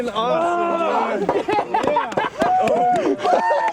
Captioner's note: laughter; cheering